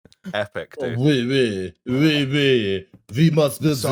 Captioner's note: French accent